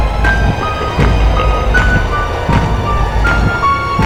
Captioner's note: sinister laughing; loud footsteps in rhythm with heavy pulse